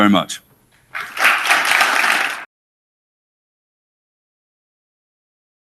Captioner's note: audience applauding